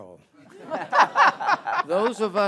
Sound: audience chuckles

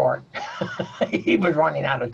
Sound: chuckles

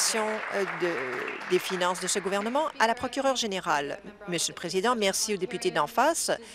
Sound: applause

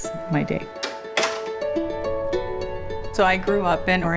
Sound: door latch clatters

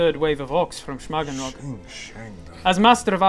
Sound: sching sching

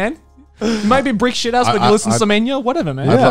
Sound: laughing

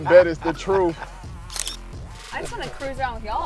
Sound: picture sound effect

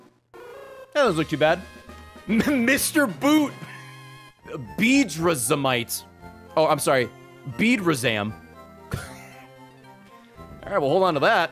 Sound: laughs

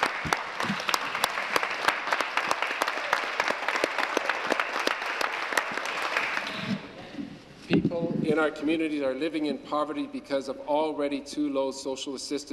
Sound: applause

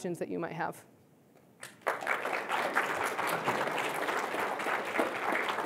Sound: applause

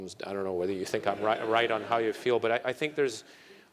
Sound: laugh

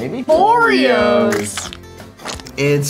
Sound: voiceover; squirting

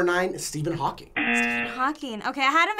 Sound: buzzer

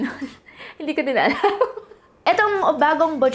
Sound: chuckles

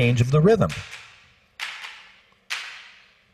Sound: rhythmic clapping

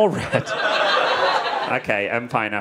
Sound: audience laughing

